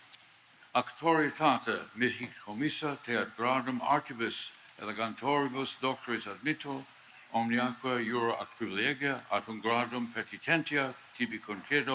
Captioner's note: speaking Latin